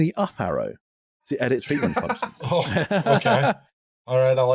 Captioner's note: laughter